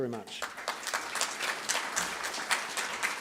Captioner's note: applause